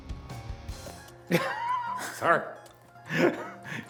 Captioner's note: laughs